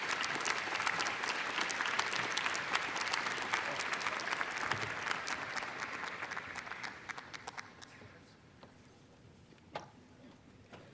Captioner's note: audience cheers and applause